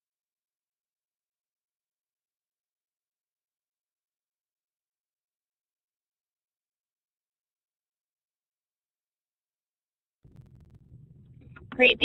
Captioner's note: silence